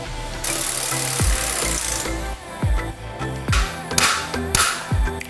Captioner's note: tools whirring and thudding